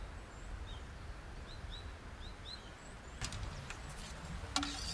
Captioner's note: birds chirping